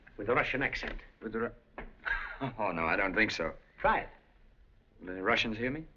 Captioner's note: laughs